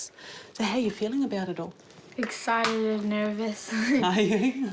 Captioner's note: chuckles